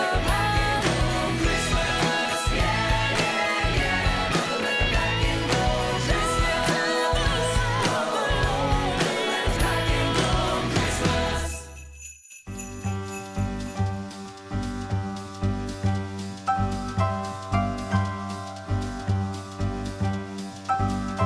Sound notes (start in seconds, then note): 11.8 bells jingling; 13.3 upbeat jazzy piano music